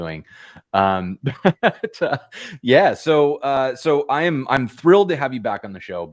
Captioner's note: laughter